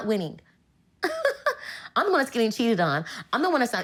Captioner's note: chuckling